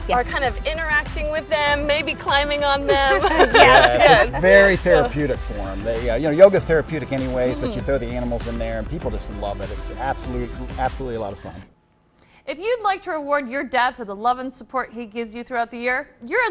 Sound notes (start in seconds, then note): 2.9 laughing